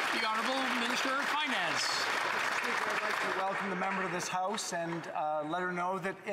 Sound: some Applause

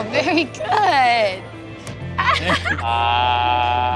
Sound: laughs

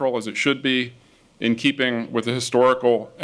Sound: none

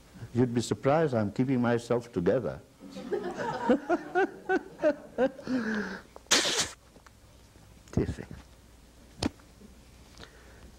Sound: laughs

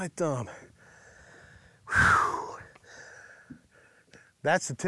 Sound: exhales deeply

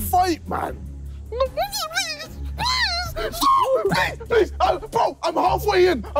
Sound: screaming

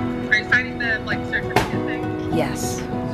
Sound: chattering

